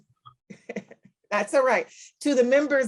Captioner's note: chuckles